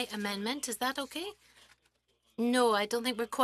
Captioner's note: speaking French